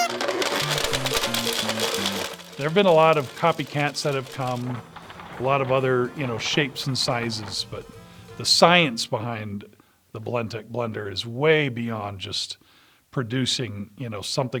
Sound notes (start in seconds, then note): 0.0 horn beeps; 0.9 blender crackling